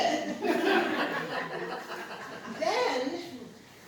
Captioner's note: laughter